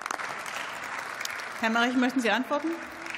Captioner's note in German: Beifall